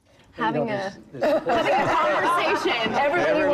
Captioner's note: laughter